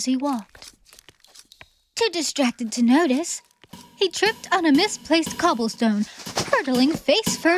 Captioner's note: hammering